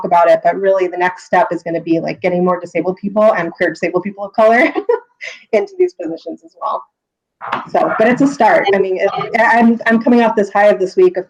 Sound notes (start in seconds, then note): 7.5 laughs